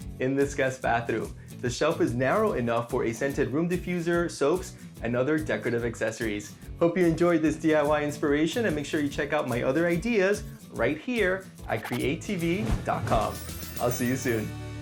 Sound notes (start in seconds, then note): 11.7 bars whooshing; 12.1 circles pinging